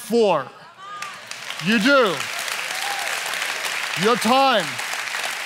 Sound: applause

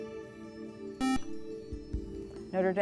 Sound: buzzer

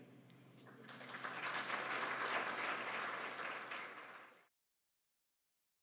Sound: applause

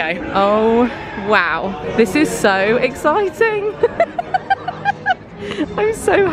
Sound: laughing

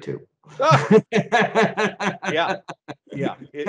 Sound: both laughing

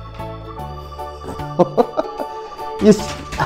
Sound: laughs

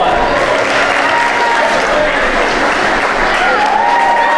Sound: audience applauding

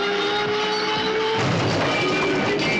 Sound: crashes

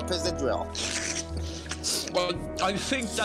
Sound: slurps

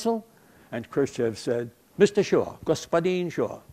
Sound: foreign language

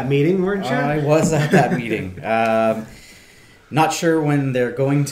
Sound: laughing

